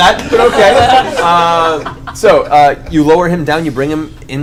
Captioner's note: all laugh